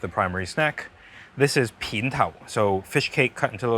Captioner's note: speaking in foreign language